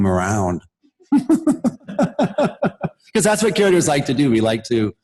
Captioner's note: laughter